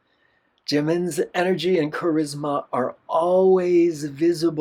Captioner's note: none